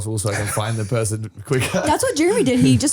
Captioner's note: laughs